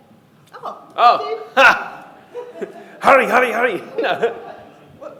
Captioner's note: laughs